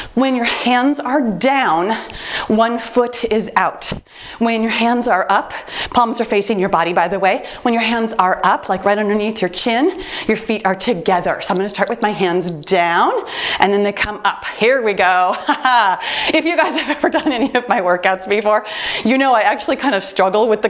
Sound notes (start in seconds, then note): 11.4 timer beeps; 15.6 laughs